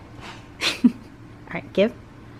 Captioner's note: laugh